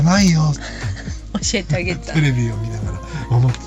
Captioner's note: laughs